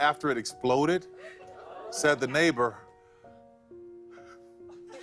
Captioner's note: chuckles; laughter